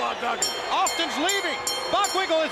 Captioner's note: bell ringing